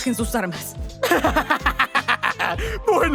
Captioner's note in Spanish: Risas malvadas